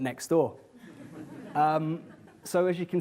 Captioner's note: audience laughs